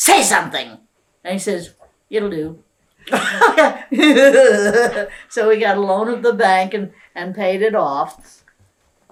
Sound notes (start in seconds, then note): 3.0 laughs